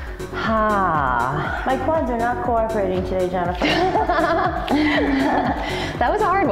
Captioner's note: laughs